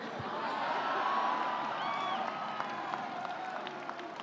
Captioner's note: audience laughs